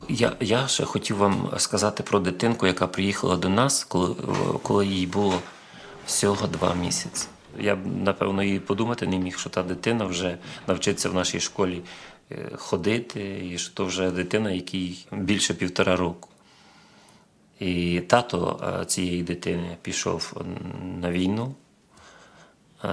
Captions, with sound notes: I wanted to tell you about a child who came to us when he was only 2 months old. [Steps] And today, I probably couldn't even imagine. That child will learn to walk in our school, and he's already over 1.5 years old. The father of this child went to war.